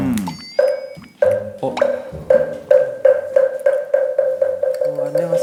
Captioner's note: tap